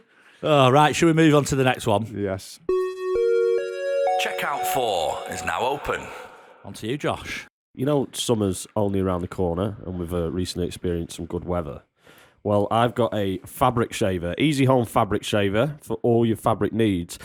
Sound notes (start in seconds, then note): 3.4 chime